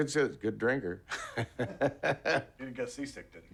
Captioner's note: laughs